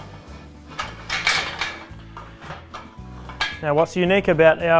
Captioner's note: metal clattering